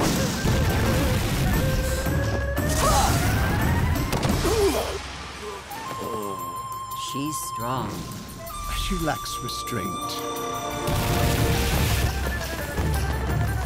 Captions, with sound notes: [grunting] [groaning] She's strong. She lacks restraint.